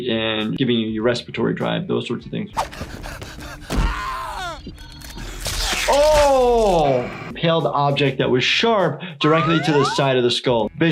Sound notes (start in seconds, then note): 2.6 breathing heavily